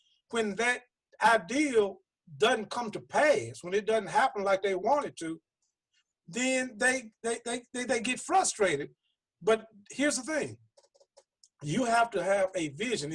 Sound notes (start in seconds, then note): none